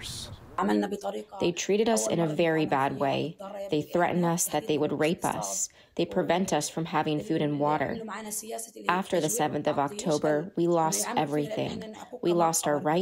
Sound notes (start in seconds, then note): 1.9 through translator